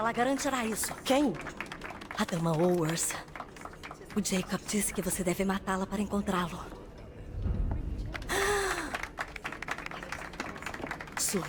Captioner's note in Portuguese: suspirando